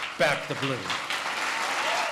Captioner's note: applause